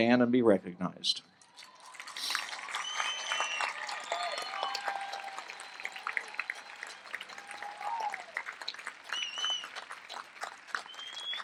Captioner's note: applause